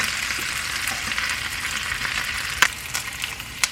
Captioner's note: sizzling